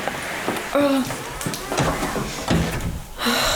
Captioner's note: door closes behind